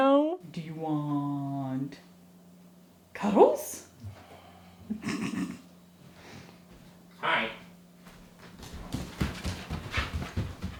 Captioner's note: snorting laughter; thuds and tippy tappies